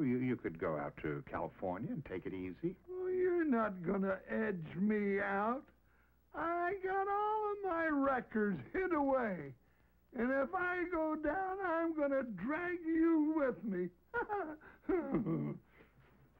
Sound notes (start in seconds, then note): 12.8 laughs